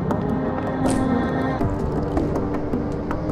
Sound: liquid pouring

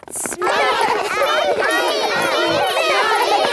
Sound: all laughing and chattering

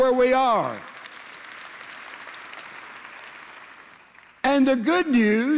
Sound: congregation applauding

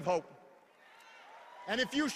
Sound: hoots and cheers

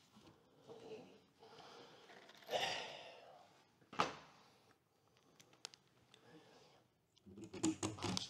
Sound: sigh

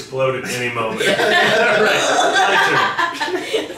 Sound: laughing

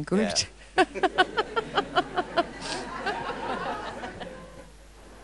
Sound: audience laughing

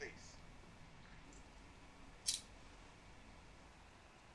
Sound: coins clink

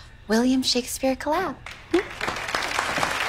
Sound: applause

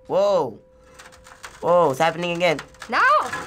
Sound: creaking

